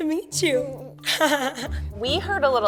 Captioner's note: laughing